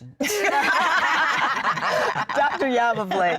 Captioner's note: laughter